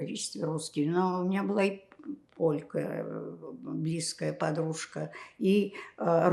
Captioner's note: counting